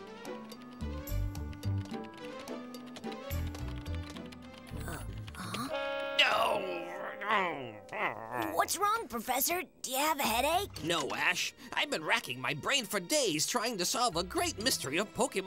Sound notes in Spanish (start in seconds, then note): 1.4 gruñe